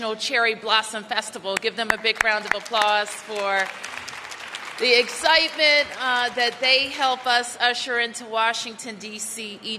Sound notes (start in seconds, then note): 1.8 applause